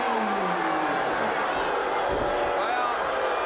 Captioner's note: crowd cheering